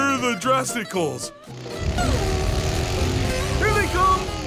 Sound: motorcycle approaching

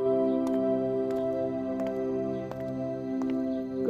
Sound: footsteps approaching

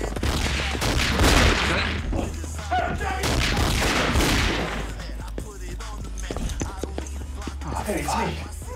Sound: gunshots; gunfire

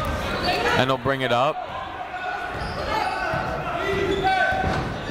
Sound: chatter

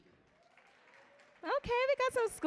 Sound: audience applauding

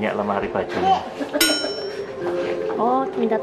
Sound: laugh

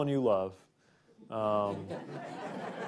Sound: laughter

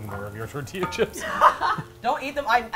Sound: laughs

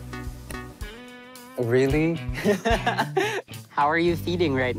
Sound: chuckles

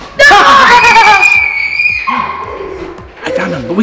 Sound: screams

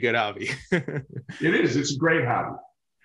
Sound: chuckles

